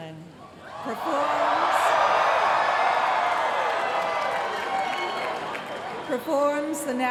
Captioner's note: cheering